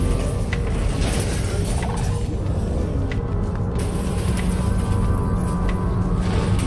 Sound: objects clattering; creatures thumping

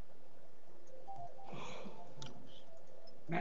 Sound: upbeat music; person sighs

